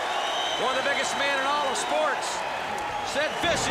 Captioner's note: crowd cheering